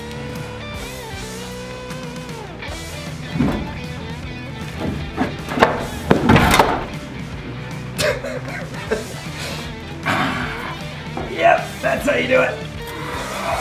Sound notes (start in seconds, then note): 0.1 fast-paced rock music; 5.3 clunking wood; 6.3 slamming metal; 7.8 laughing